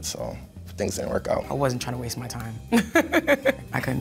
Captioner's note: laughs